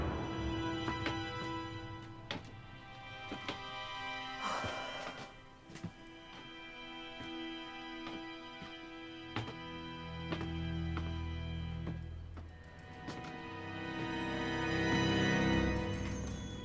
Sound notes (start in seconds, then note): 2.8 Crystal sighs; 2.8 boards creaking